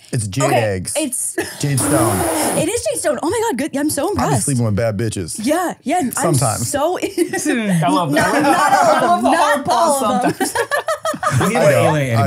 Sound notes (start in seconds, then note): 2.3 laughing; 7.0 all laughing